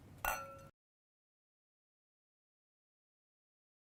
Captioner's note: glasses clink